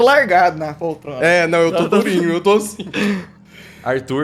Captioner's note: laugh